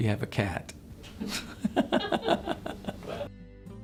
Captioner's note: laughter